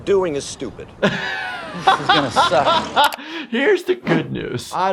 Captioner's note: laughs